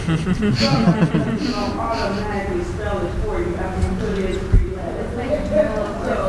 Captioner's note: laughing